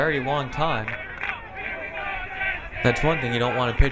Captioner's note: crowd